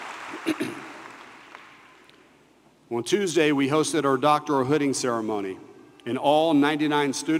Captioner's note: applause